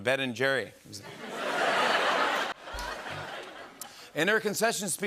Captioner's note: laughter